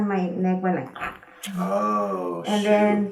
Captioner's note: patient makes a cracking noise